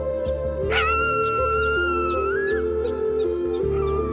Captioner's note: coyote howls